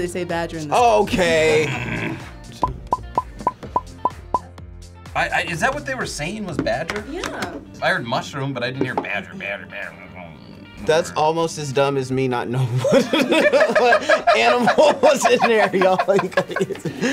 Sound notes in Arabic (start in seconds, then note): 1.3 يئن; 2.3 تفرقع الفقاعات; 5.0 تلعثم; 16.4 يضحك